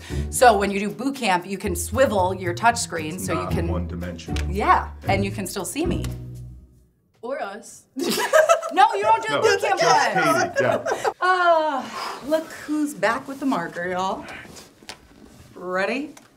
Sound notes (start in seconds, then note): 9.2 laughing